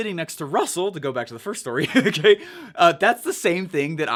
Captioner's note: chuckles